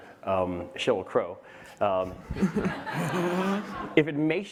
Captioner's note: laughter